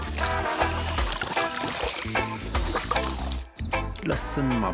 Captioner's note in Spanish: perro sorbiendo